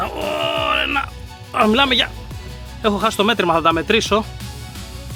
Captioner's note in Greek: βογκητό